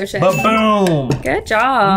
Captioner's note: bell dings